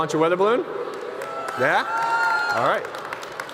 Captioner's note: crowd applauding